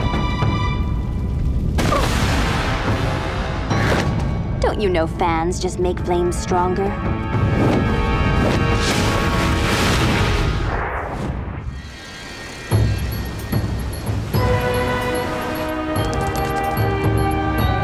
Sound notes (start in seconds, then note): 1.9 she exclaims; 12.0 regal music